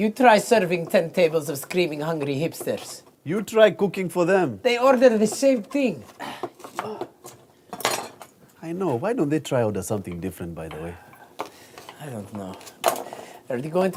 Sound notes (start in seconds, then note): 6.7 groans